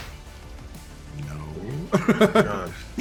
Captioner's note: laughs